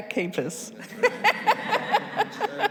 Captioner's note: attendees laughing